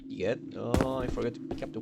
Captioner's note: brain dead sounds